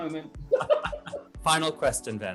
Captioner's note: laughter